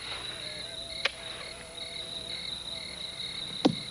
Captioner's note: crickets chirping